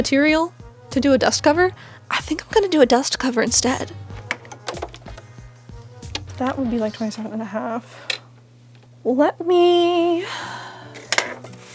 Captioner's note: tape measure clicking